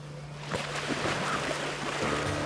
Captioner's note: water splashing